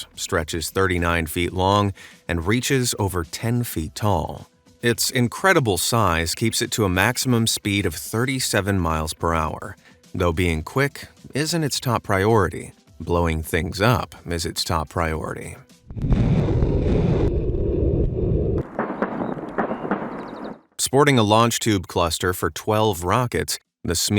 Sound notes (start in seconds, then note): 15.9 rockets whooshing; 18.5 explosions banging